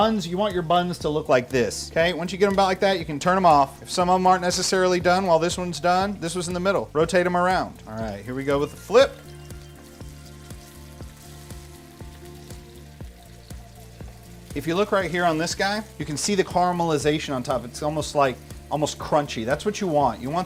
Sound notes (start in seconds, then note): 10.3 oil sizzling